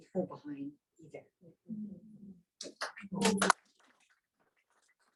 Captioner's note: clapping